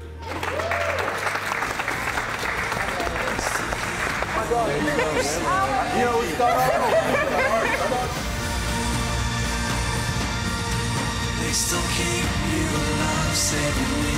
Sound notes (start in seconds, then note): 0.2 calm upbeat music; 0.2 crowd claps and cheers; 4.4 group laughing